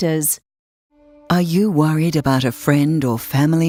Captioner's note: voiceover